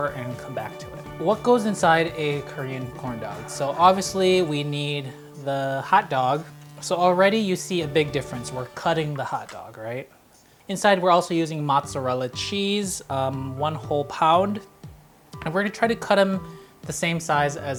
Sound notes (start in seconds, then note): none